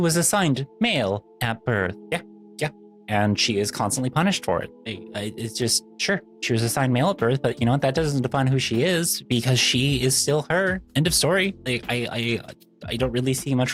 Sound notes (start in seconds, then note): none